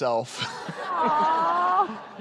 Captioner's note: laughs